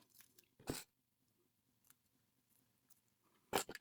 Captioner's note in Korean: 콧방귀